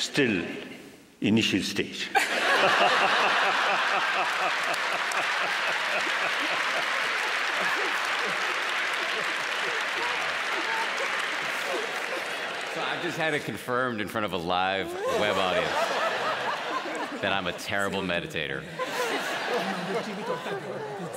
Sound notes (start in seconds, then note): 3.9 laughter; 6.2 applause